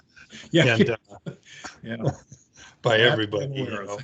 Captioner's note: laughs